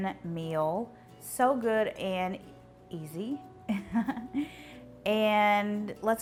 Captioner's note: laughs